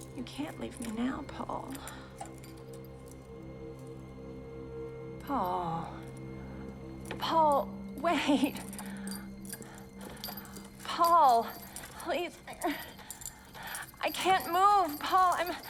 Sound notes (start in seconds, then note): 3.1 suspenseful music; 12.9 moans